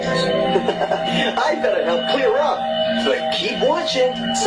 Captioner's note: chuckles